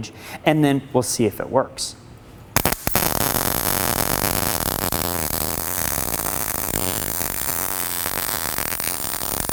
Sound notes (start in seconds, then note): 2.5 weld popping